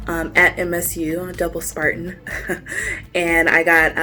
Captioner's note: laughs